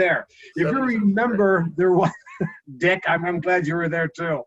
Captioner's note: laughing